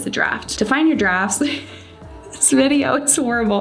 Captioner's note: chuckles